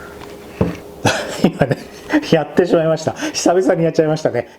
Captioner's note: laughs